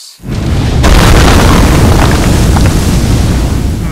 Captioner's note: fire and explosion